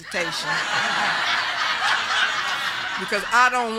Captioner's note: group laughing